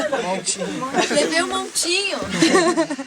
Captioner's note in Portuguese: Risos